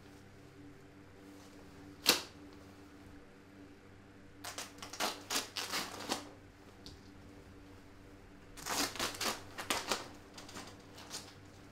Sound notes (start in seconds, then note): 4.4 removing duct tape